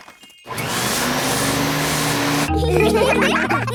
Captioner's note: whirring; all laughing